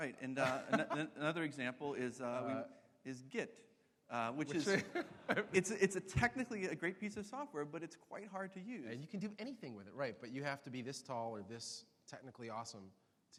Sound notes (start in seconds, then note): 4.2 laughs